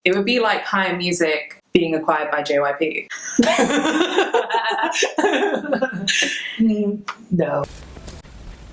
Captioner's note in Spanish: risas